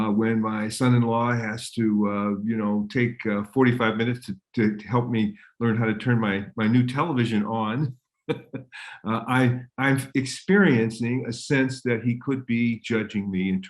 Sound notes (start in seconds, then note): 8.3 laughs